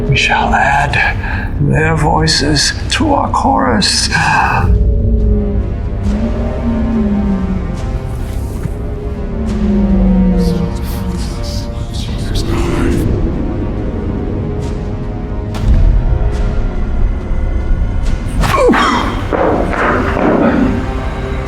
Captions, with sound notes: We shall add their voices to our chorus. (suspenseful music) (mysterious whispering) (fist slams)